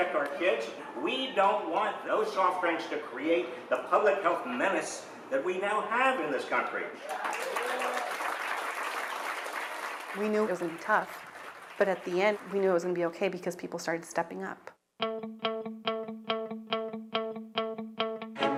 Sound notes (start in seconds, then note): 7.0 audience applause; 15.8 upbeat music